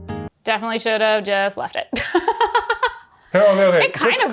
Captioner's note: calm music; laughs